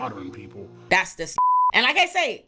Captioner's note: beep